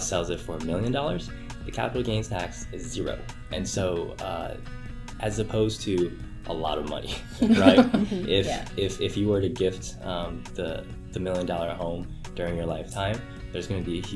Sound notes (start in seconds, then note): 7.3 laughter